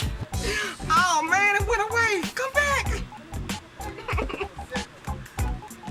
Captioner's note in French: Feignant de pleurer